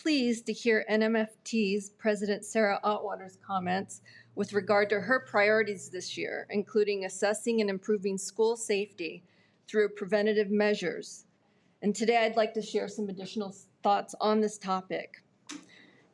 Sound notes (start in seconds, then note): none